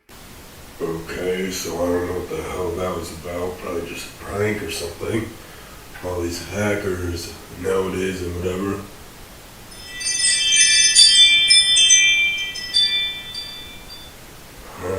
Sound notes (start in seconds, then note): 9.8 ring notification